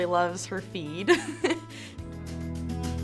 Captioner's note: giggles; cheerful music